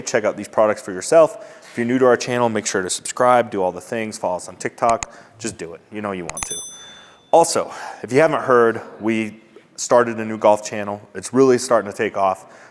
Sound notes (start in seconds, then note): 6.3 notification bell dings